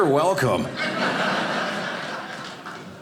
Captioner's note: audience laughing